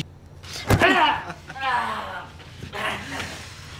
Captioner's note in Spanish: Quejidos